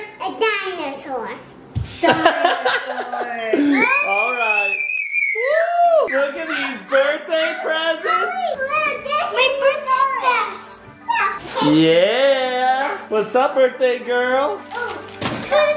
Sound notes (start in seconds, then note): 2.0 dad laughs; 4.3 screams